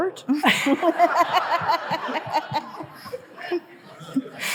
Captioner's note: audience laughing